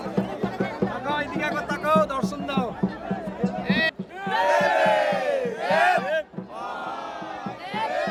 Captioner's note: cheers